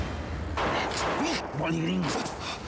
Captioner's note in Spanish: siguen los disparos